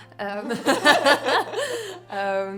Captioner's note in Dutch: lachen